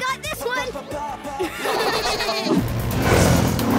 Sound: laughing

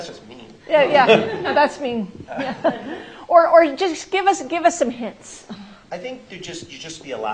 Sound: laughter

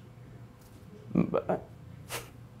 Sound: chuckling

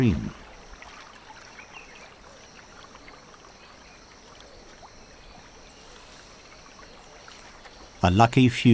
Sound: nature sounds

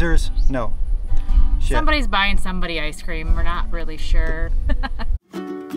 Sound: laughter

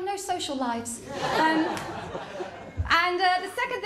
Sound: laughter

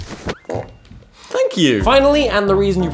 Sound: fart

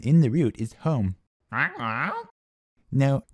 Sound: confused squawking

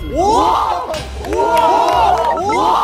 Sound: murmurs

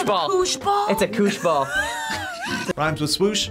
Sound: React laughs

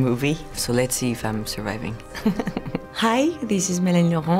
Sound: laughs

